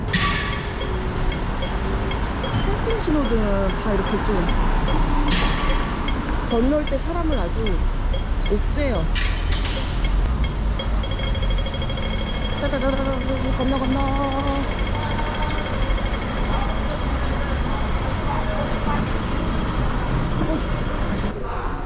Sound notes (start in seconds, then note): 0.1 the sound of traffic lights like a metronome; 11.0 drrrrrrrr